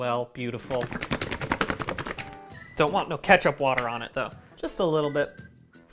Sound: vigorous shaking

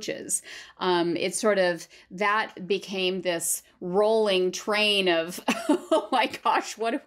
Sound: laughter

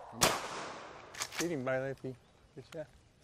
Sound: gunshot

